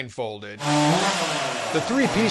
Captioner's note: chainsaw sound which blends into miter sound saw - kind of confusing actually